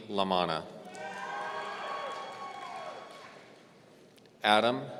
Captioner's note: audience cheering